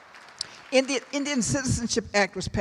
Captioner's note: applause